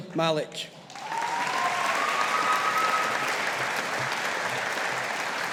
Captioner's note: audience applauding